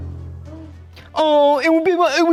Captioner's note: gasps